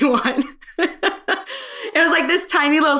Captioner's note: laughing